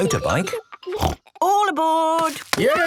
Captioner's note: snort